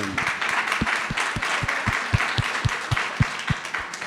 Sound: audience clapping

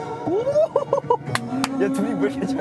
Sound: clapping

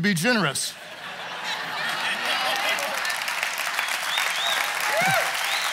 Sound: audience cheers and applauds

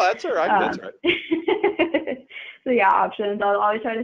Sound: chuckling

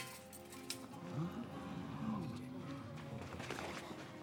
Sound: crowd gasps

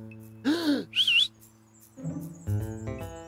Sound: gasps and whistles

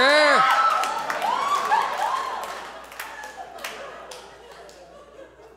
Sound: audience applauds

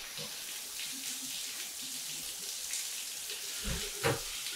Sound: water pattering

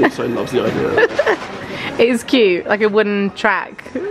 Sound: laughs

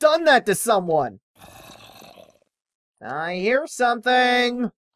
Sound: Creeper groans

